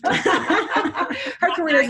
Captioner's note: all laugh